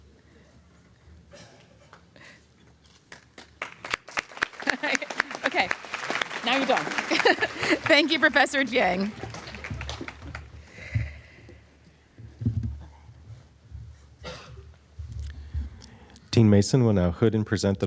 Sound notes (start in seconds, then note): 3.0 applause